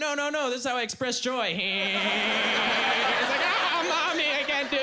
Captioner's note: laughing strangely